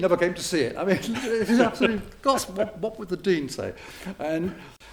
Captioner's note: chuckles; laughter